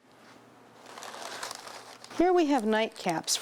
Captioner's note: paper rustles